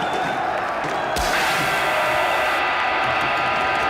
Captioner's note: loud feedback